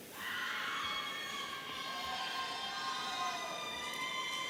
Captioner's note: audience cheering